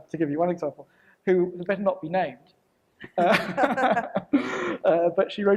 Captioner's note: laughs